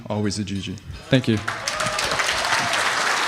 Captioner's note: crowd applauds and cheers